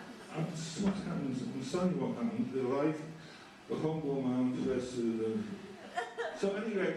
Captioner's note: mumbles while reading